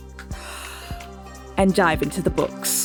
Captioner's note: inhales